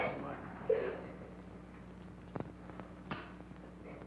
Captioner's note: Ellen sobbing